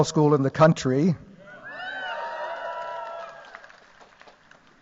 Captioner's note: cheers